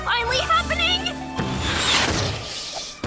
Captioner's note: whoosh